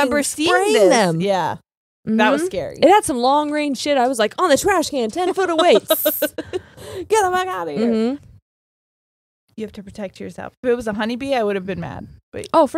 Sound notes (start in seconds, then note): 5.3 laughing